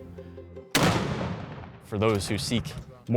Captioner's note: cannon fire booming